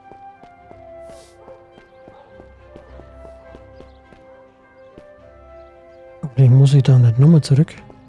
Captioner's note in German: schnauben